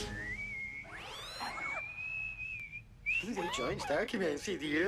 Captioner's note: whistling